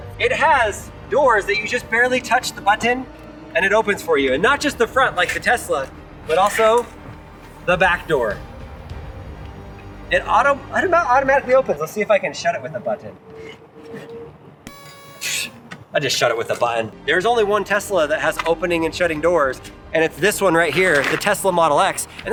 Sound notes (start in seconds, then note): 14.6 horn toots; 15.0 air whooshes